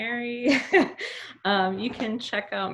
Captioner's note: laughs